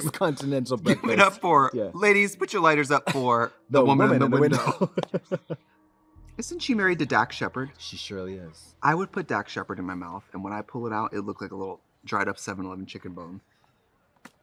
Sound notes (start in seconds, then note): 4.0 Katya laughs